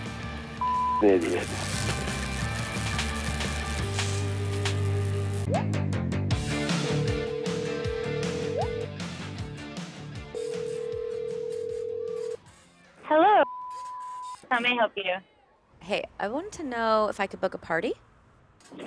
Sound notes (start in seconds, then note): 0.0 cheerful Christmas music; 0.6 beeping; 5.4 upbeat music; 6.7 phone ringing; 13.4 beeping